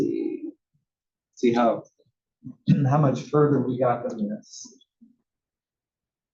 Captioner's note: cough